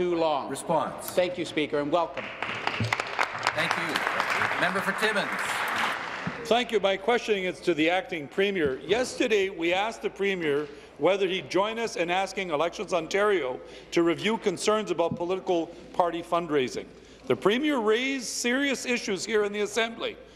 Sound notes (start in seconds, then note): 5.7 applause